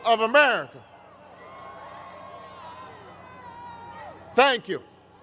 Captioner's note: crowd cheers